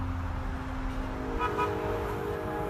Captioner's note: car horn